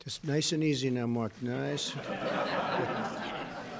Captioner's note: laughter